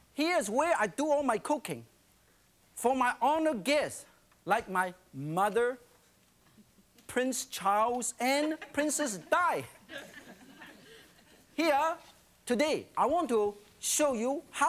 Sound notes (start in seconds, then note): 8.3 laughing